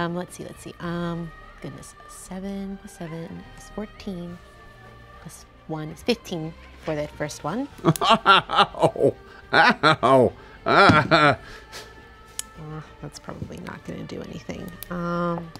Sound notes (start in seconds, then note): 7.7 laughs